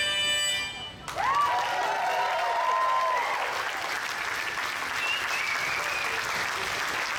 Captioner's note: audience cheers; audience applauds